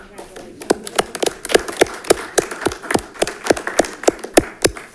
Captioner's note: audience applauds